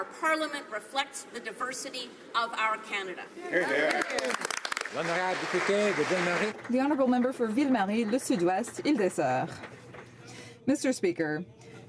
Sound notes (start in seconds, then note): 7.2 applause